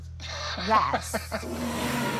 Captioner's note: chuckles; dinosaur roar